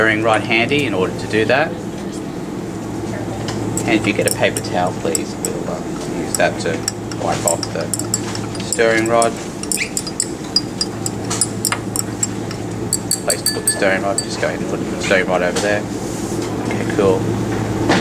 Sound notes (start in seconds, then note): 9.7 clinking